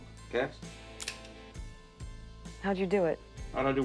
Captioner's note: trigger clicks